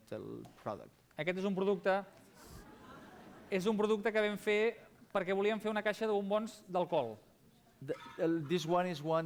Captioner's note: non-english speech